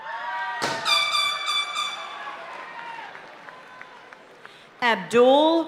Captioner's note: party horn blaring